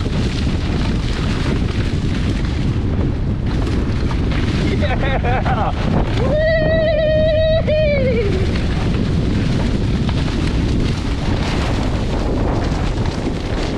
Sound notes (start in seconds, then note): 10.8 laughing